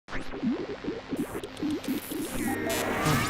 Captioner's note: radio static; electronic rock music